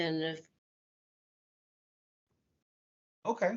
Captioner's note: audio Break